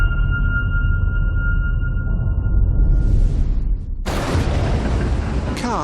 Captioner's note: dramatic sound